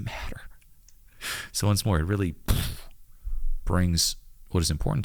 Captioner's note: blows raspberry